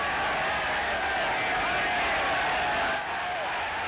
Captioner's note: cheering